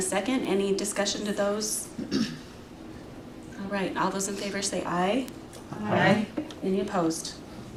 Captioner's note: clears throat